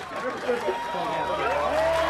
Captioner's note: crowd cheering